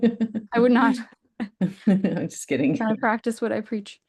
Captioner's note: laughs; laughter